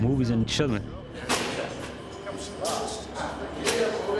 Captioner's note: indistinct chatter